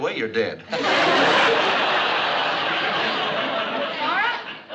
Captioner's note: laughs